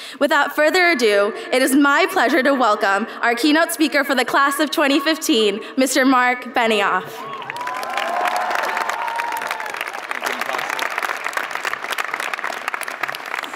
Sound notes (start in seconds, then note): 7.2 audience applauds